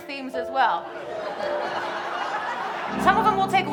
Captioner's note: audience laughing